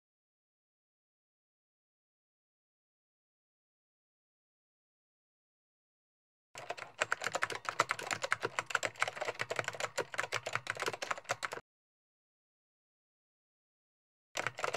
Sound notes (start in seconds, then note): 6.6 keyboard clicking